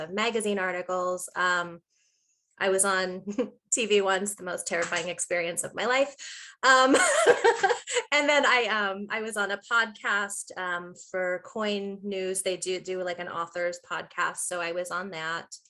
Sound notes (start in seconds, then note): 6.8 laughing